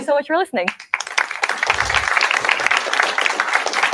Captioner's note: applause